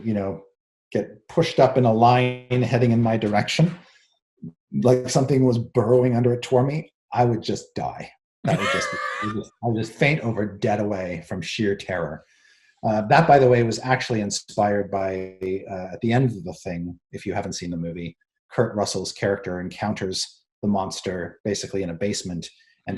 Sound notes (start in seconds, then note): 8.4 laughs